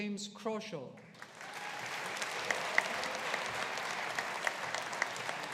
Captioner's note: audience applauding